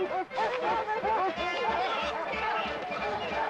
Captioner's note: shouting